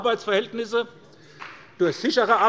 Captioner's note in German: Beifall bei der SPD